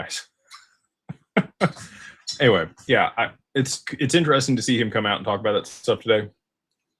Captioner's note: laughter